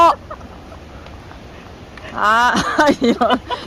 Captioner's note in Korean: 웃음